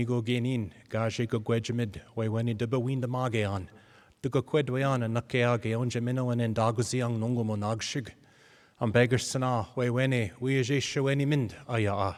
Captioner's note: speaking in native language